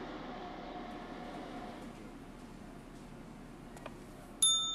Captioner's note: bell rings